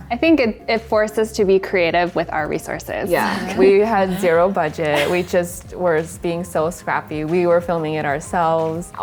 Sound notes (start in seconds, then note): 3.1 laughs